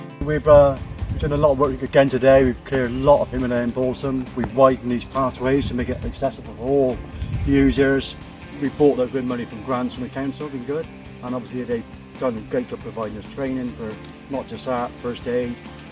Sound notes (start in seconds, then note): 8.8 the strimmers